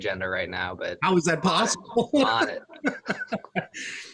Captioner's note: laughs